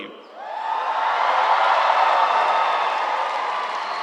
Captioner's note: crowd cheering